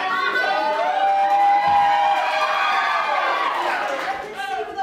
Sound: hoots and hollers

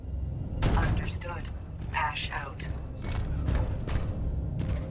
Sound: radio

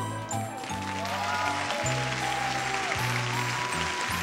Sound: audience cheering

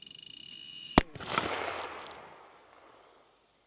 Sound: popping quickly; bang, echoes

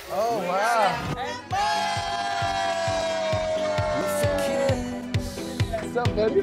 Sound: cheers

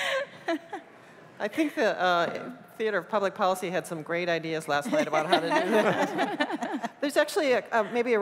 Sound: laughter

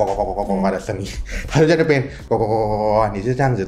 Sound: croaks

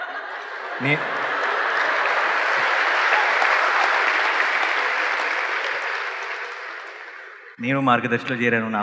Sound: cheers/Laughter/Applause

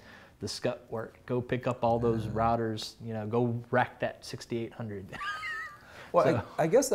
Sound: laughs

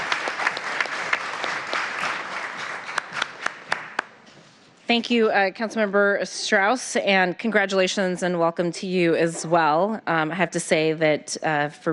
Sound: applause

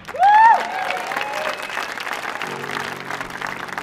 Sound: audience cheering; gentle music

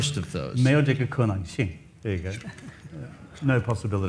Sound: speaks in foreign language

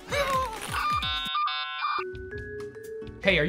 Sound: dial-up ringing; elevator music

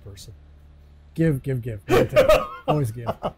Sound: laughing

